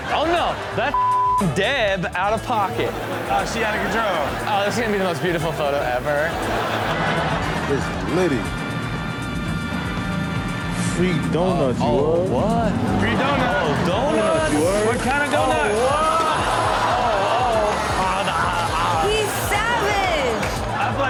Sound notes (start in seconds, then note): 0.0 audience laughs; 0.9 beep; 2.6 audience laughs; 15.8 audience laughs